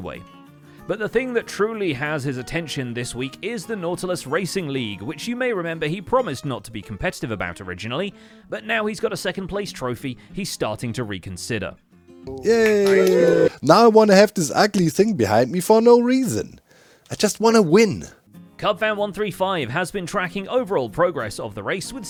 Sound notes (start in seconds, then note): 12.2 crowd cheers